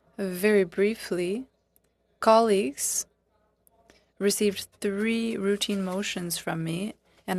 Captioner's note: speaking French